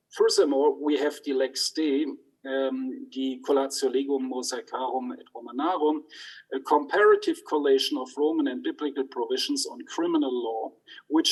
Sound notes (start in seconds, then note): 3.4 speaks in foreign language